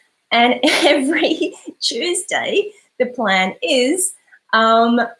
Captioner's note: laughs